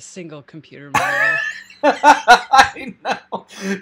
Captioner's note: loudly laughing